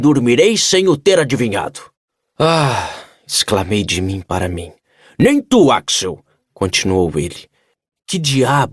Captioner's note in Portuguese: suspirando